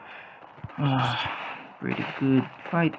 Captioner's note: sighs